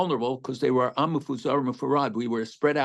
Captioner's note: speaking hebrew